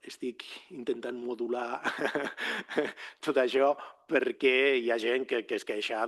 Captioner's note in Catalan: rialles